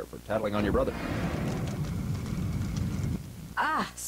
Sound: fire crackling

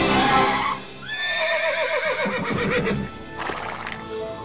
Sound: neighing

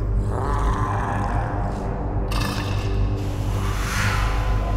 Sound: heavy breathing

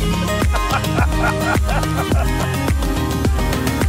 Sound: laughing

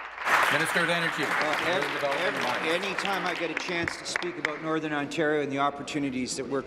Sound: applause

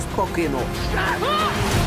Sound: both exclaim

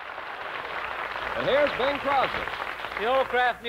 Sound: applause

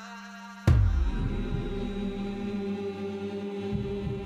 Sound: chanting in unison

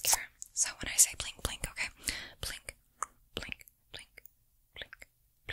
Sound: mouth Sounds

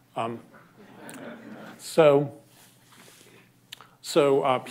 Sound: laughter

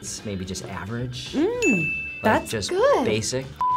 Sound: bell dings

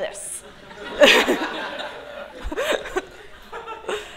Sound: laughter

